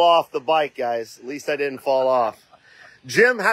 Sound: laughing

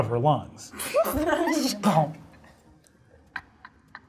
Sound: all chuckling

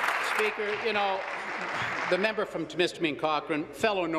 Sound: applause

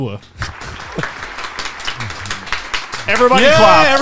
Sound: everyone applauds

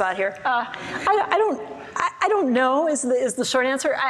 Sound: audience laughs

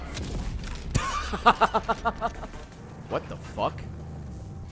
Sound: laughs

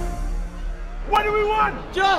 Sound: voice of crowd shouting; voice of protester shouting

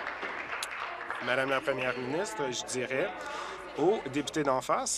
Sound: applause

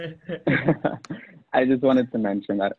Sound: laughs

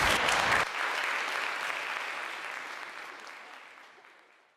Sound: audience applause

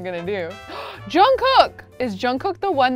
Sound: gasping

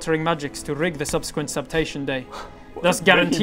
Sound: slaps

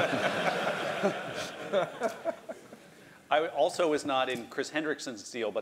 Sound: laugh

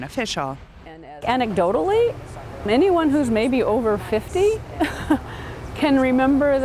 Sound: chuckles

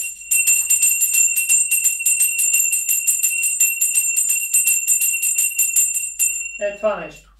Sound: bell ringing

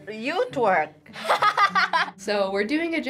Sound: laughing

